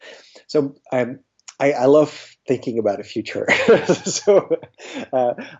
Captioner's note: laughs